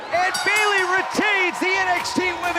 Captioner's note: bell